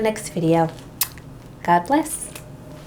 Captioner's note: kiss